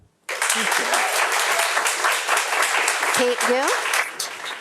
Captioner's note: audience applauds